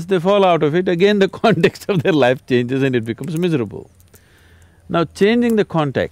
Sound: laughs

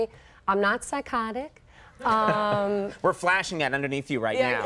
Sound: audience laughs

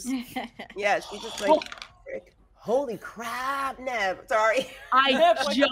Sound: gasps

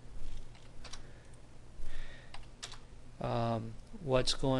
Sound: typing

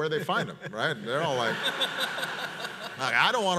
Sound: audience laughs

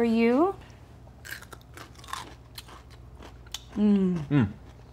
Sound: crunching

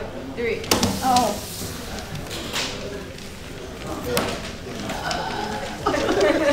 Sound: slaps

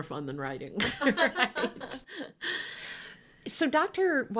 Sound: laughing

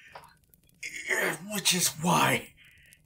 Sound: grunting in pain

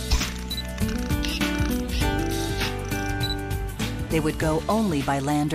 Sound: camera snaps, winds, beeps

